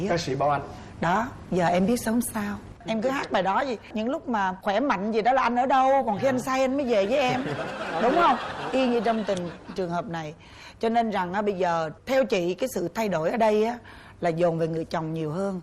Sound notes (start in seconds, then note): 7.1 laughing